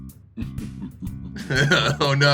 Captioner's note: evil chuckle